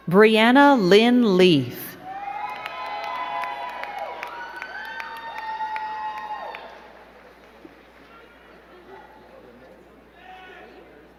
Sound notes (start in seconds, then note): 2.0 crowd cheering and clapping